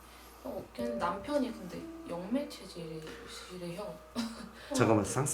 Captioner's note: laugh